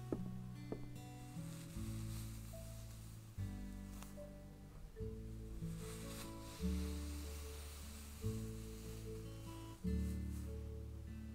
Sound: footsteps on wood, brushing sounds begin; footsteps end, brushing continues

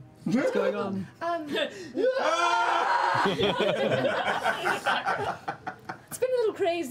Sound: yelling and laughter

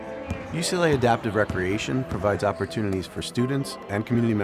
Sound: voiceover

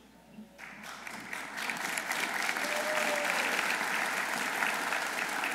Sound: audience applauding

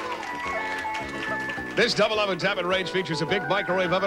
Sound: audience applauding

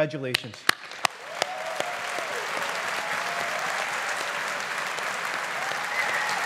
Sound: audience applauding

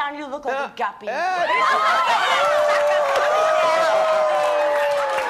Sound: audience jeering

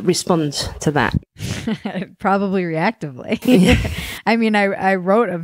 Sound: laughs

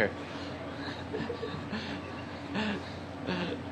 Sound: laughing

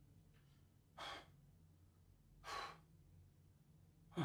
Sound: heavy breathing

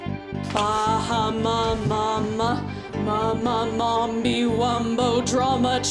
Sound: chanting gibberish

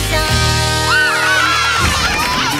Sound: cheering

